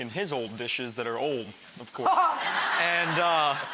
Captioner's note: audience laughs; laughs